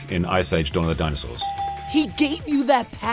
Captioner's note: dinging